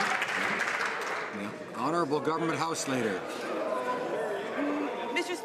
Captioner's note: some Applause